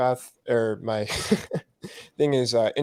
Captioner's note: laughs